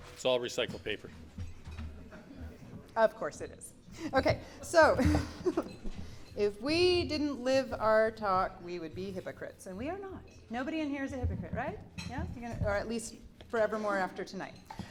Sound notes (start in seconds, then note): 1.9 polite chuckles; 4.7 giggles